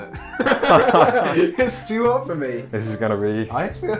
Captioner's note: laughter